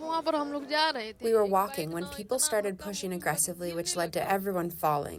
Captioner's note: through translator